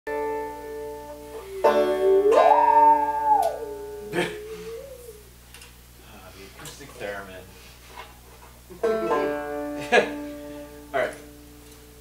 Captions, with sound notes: (musical saw and banjo music) (both laugh) - Ah, the acoustic theremin. (banjo music) (both laugh) All right.